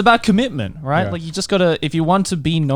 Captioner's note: laughs